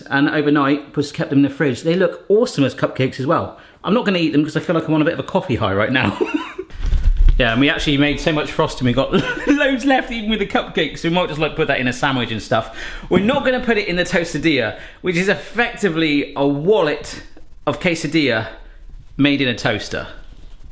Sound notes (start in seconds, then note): 6.0 laughs